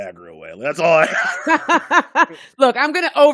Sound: laughing

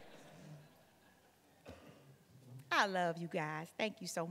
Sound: laughter from the audience

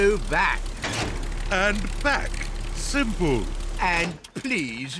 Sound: lever clunks

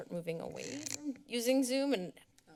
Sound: mic noise

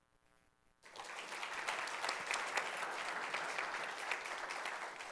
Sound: audience applauding

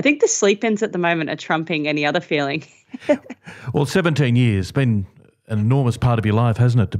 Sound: laughter

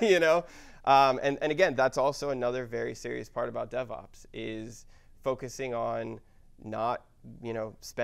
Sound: laugh

